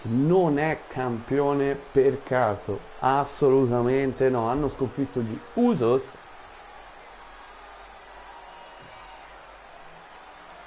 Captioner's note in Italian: Applauso